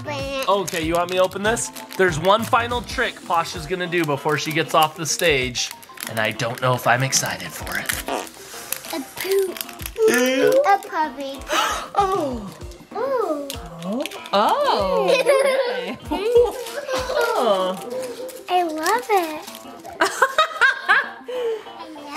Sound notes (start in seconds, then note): 7.9 puppy farts; 11.4 mom gasps; 14.9 mom laughing; 14.9 giggling; 20.0 mom laughs loudly